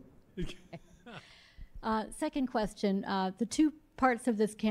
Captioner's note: laughs